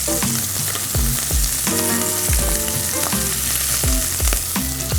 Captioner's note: oil sizzling